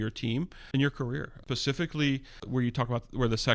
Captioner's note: uh